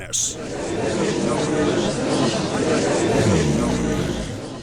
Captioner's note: gallery chattering